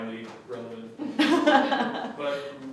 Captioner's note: laughs